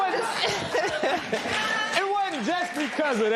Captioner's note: laughter